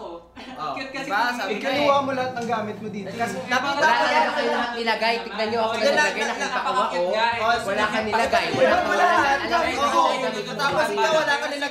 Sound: arguing

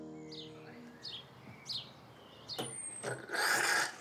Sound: birdsong; coffee machine splutters

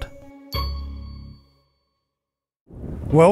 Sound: ding

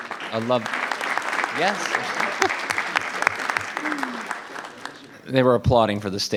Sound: audience applauding

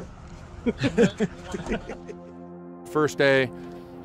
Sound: laughing

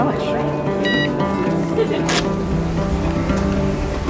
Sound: scanner beeps

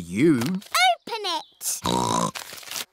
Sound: snorts

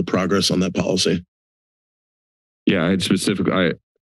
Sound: silence

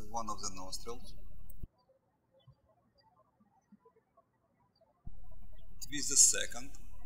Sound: birds chirping

